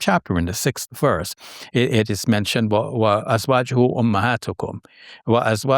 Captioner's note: speaking Arabic